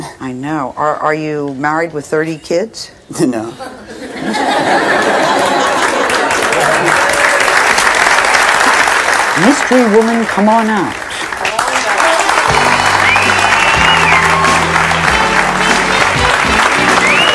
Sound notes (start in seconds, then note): 7.1 audience claps